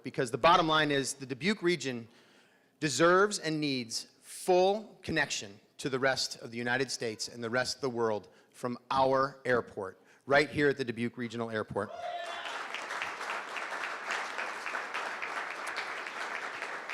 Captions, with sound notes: Because the bottom line is the Dubuque region deserves and needs full connection to the rest of the United States and the rest of the world from our airport right here at the Dubuque Regional Airport. (crowd cheering and clapping)